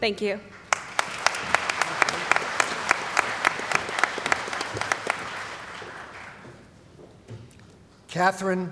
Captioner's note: applause